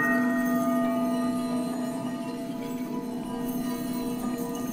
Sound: bells chiming

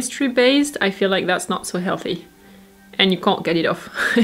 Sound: chuckles

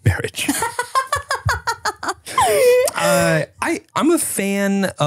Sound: laughing

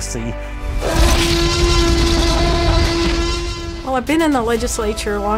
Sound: dinosaur roars

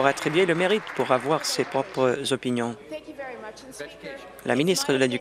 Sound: applause

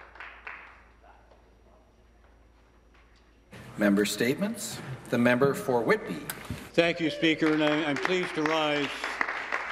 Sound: some Applause

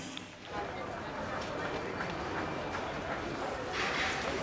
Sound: crowd bustling

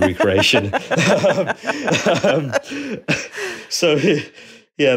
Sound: both laughing

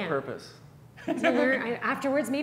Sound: chuckles

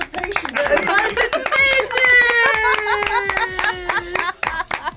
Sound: group laughs

